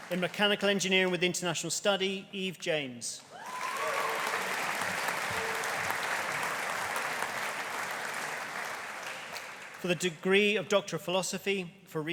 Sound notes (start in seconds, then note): 3.3 audience cheering; 3.3 audience applauding